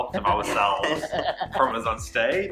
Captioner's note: laughing